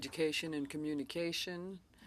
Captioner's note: speaking French